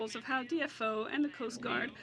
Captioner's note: speaking French